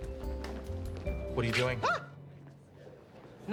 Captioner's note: high-pitched voice